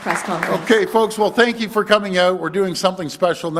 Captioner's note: applause